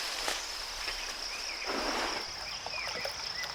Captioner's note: water splashing